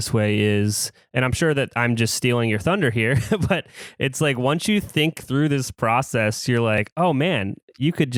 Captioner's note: laughs